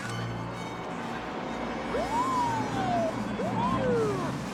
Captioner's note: siren wails